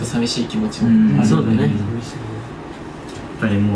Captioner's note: members agreeing